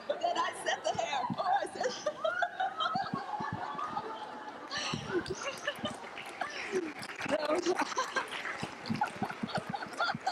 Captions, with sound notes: but then I set the hair. Oh, I set (laughing) (applause)